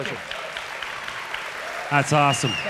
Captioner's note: audience applause